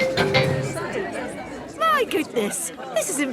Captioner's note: all murmuring